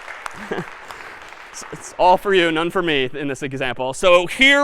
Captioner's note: laughs